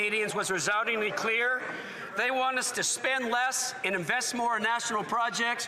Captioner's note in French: voix de l'interprète